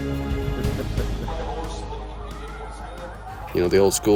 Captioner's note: chuckling